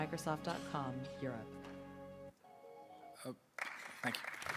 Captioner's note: applause